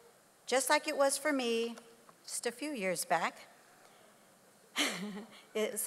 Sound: laughs

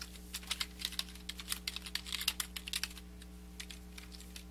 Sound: keyboard clicking

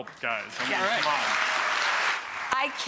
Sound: audience applauds

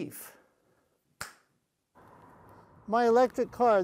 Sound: finger snap sound

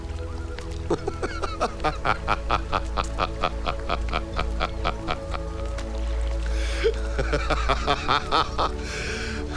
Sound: laughs

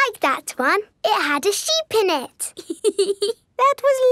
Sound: laughs

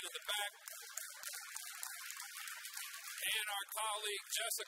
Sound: audience applauds

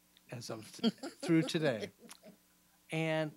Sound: laughing

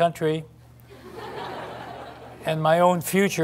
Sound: laughter

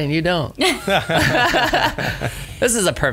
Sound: laughs

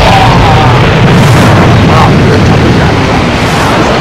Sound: groans

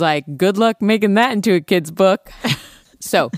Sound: laughs

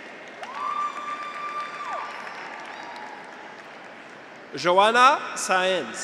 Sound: audience applauds; graduates cheer

